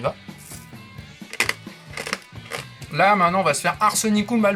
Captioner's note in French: bruit des granules homéopathiques qui croustillent